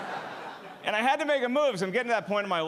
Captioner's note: audience laughing